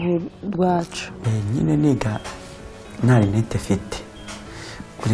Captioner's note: speaking in Kinyarwanda